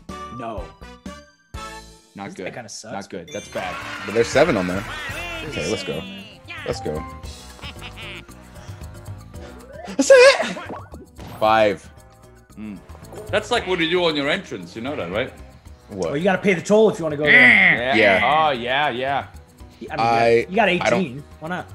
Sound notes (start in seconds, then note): 3.4 applause; 7.3 laugh